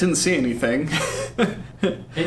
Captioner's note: laughs